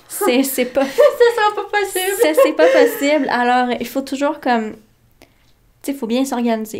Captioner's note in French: rires